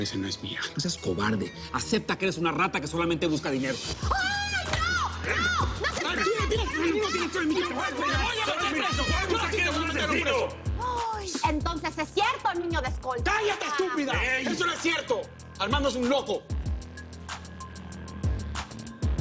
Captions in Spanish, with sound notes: - NO SEAS COBARDE. ¡ACEPTA QUE ERES UNA RATA QUE SOLAMENTE BUSCA DINERO! - ¡AY, NO! ¡NO! ¡NO SE PEGUEN! - ¡TÚ NO TIENES...! - ¡ES VERDAD! - ¡TE VOY A METER PRESO! - ¡ERES UN ASESINO! [Grito ahogado] - ENTONCES, ¡ES CIERTO, NIÑO DE ESCOLTA! - ¡CÁLLATE, ESTÚPIDA! - EY. - ¡ESO NO ES CIERTO! ARMANDO ES UN LOCO.